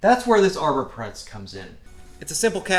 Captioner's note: none